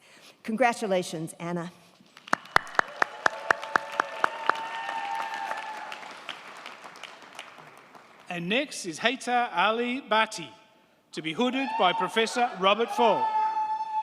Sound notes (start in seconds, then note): 2.1 crowd clapping; 2.2 crowd cheering